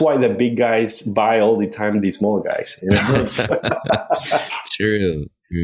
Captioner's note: laughs